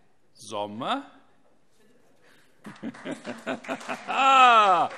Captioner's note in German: Beifall SPD und Freie Demokraten - Heiterkeit